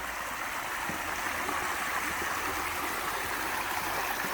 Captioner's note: river flowing